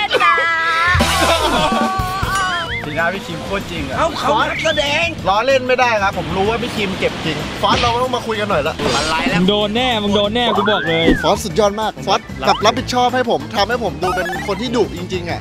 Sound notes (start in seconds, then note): 0.0 laughs; 10.9 pat